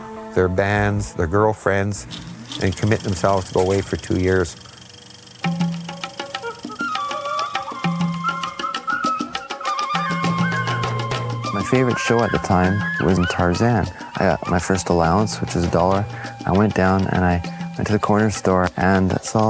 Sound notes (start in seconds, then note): 2.1 film projector running; 5.6 monkey noises